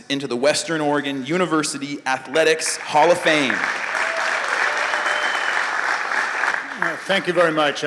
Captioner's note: applause